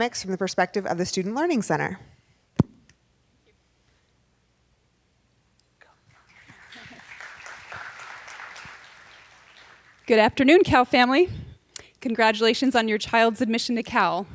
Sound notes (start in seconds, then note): 5.2 person speaking off mic; 6.1 audience applauding